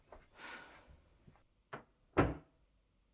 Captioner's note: Ruth sighing; door closes